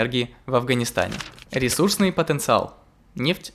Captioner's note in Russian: звук перелистывания бумаги